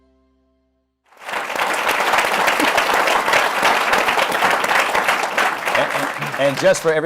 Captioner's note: applause